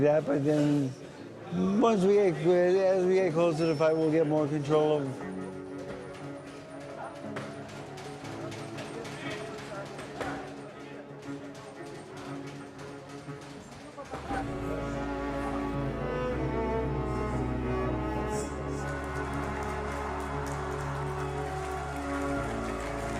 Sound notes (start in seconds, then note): 5.9 dramatic orchestra music; 19.2 crowd applauding